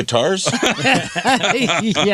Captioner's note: laughing